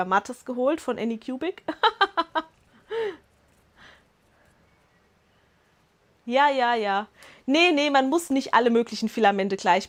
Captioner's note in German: Lachen